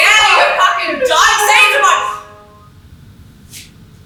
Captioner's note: phone alert